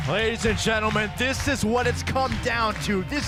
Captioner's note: crowd cheering